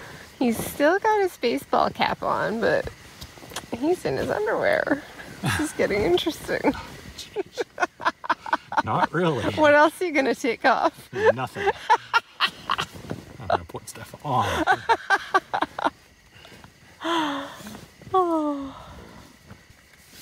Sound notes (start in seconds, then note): 7.2 laughing; 11.1 laughing; 14.3 laughing; 17.0 sigh